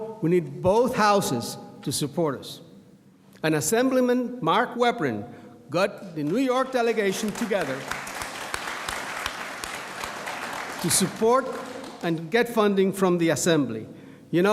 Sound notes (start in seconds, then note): 6.7 audience applauds